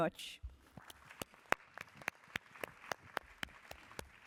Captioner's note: applause